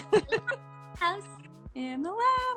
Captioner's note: laughing